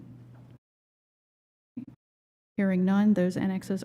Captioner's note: silence